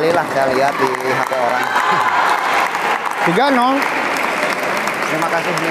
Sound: applause

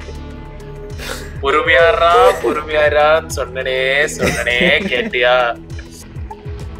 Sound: laments

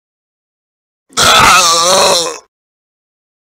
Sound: sound of male death

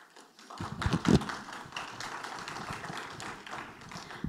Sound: audience applauding

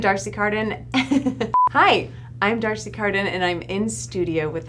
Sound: laughs; beeps

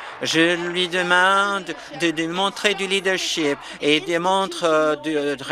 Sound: applause

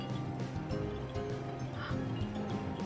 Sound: gasp

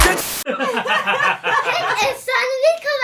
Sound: laughs

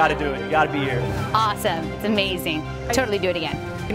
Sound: woman's Voice

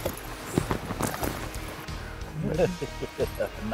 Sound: laughter

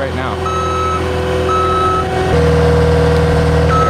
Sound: machine beeping

